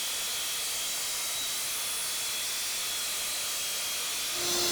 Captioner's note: saw whirring